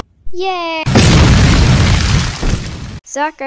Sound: crash

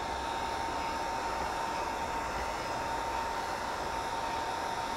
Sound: heat gun blowing

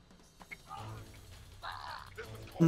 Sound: grunting

